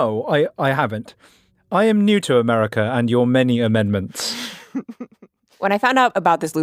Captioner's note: laughs